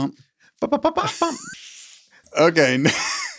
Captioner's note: laughs; both laughing